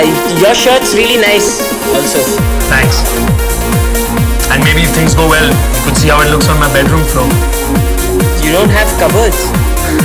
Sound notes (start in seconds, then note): none